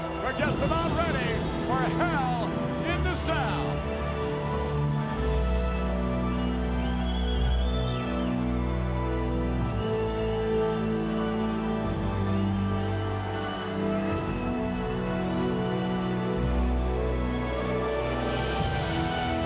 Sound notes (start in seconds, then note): 4.1 crowd chattering; 4.1 dramatic music continues